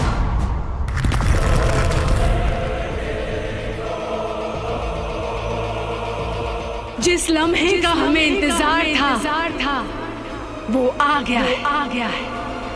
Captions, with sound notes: - [shattering] - [ominous music playing] The moment I have been waiting for has arrived!